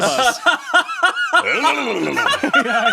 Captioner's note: laughs; makes silly sound